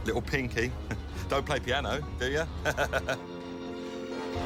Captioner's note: laughs